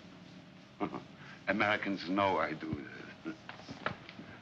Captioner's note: chuckles